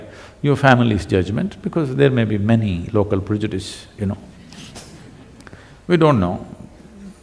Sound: laughs

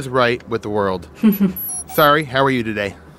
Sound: laughs

